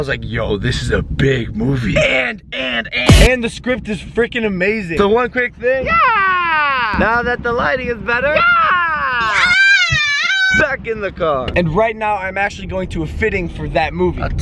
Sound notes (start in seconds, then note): 8.3 kid screaming yeah